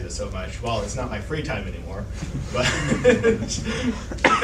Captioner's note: chuckles